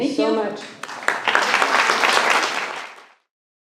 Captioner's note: applause